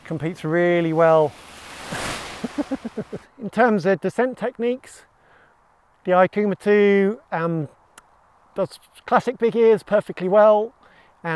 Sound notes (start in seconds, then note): 2.4 laughs